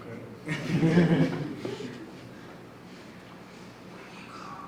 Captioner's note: audience laughs